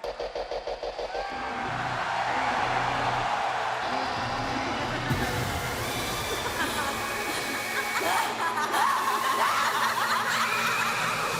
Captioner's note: crowd cheering